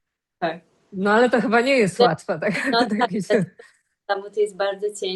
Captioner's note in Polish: śmiech